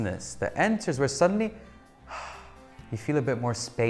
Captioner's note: exhales